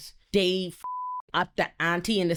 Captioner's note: beep